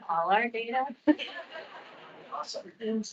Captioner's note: attendees laughing